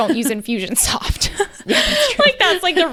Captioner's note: laughing